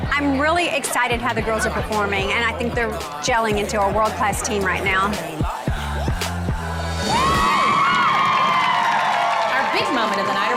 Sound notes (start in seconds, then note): 6.9 audience cheering